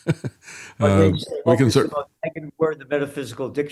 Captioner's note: laughing